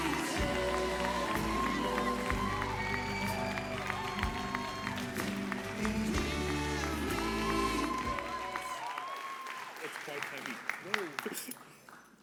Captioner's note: applause